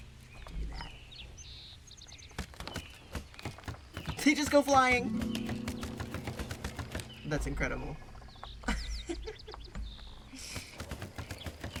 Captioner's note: laughs